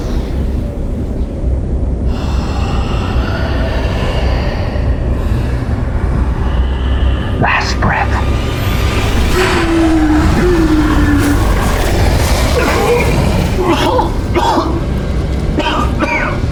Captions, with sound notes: (mysterious roaring) Last breath. (Hawk groans) (Hawk coughs)